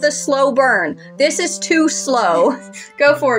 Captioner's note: chuckle